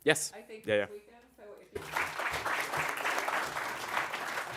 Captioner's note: applause